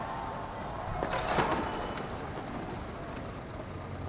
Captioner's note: motorcycle drops